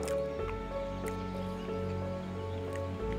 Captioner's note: continues eating loud